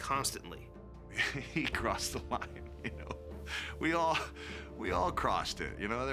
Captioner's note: laugh